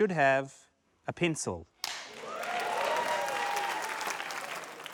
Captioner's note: cheers, applause